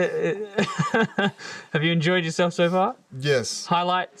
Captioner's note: laugh